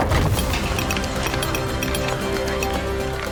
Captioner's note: hammers chiseling